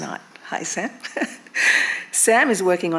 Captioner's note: chuckles